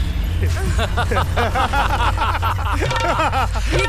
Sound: laughs

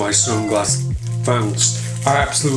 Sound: squeak

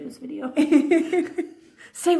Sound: laughing

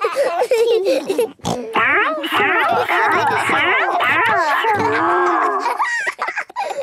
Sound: giggling; snorting

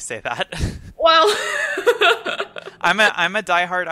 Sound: laughs

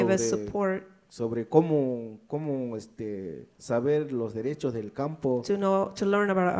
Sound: speaks in foreign language

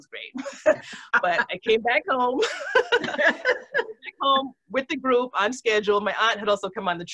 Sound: laughs

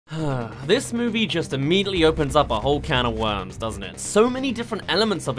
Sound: sigh

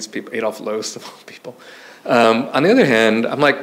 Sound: chuckles

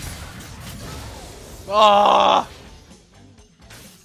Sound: aaahuhahhgh

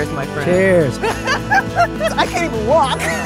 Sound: laughs

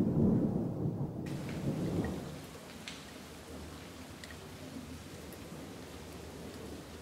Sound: raining heavily

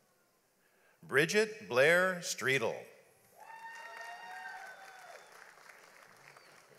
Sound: audience applauds

